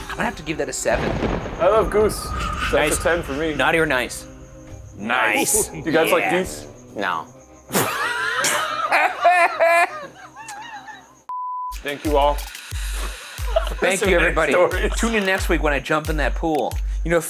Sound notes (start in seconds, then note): 7.6 all laughing; 13.4 laughs